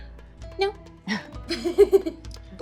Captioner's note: giggling